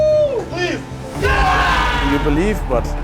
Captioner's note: everyone cheering